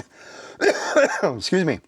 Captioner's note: coughs